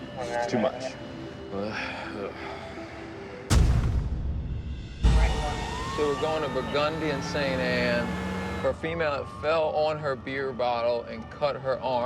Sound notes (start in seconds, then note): 5.2 siren wailing